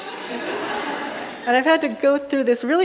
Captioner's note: audience laughing